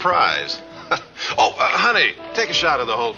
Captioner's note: Jerry laughs